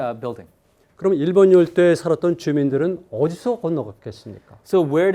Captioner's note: speaking in Korean